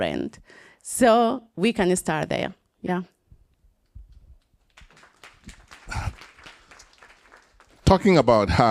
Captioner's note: applause